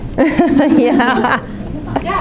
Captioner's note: laughing